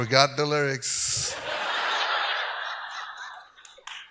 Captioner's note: audience laughs